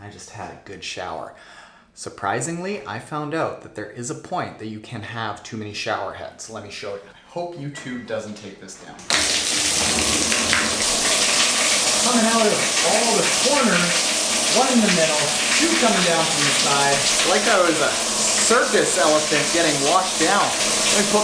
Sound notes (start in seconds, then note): 9.3 shower sprays